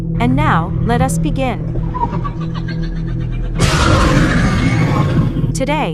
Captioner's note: demogorgon cries